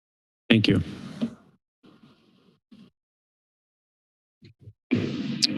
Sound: silence

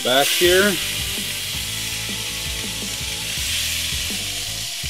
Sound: fish sizzles

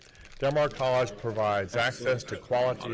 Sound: in Unison

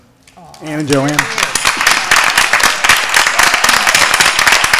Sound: applause

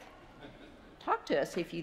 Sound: congregation chuckles

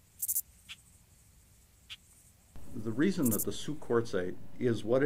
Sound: birds chirping

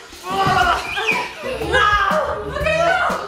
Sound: screams

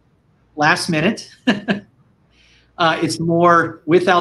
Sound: laughing

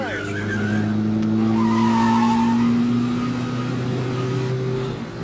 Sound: tires squealing

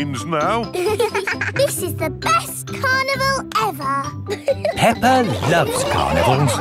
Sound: both giggling

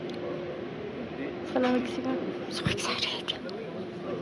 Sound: whispers

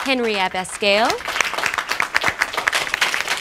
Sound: claps

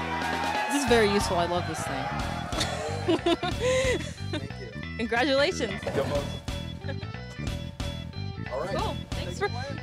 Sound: laughs

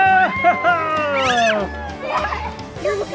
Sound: screeching

